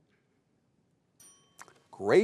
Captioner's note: timer rings